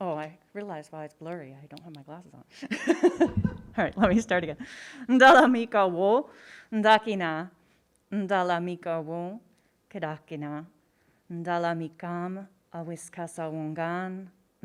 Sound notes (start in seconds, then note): 2.6 laughs; 5.4 speaking in foreign language